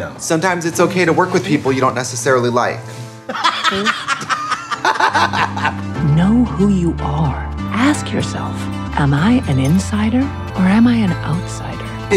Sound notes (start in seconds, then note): 3.3 laughing